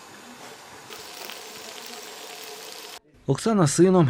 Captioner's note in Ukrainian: Звук смажіння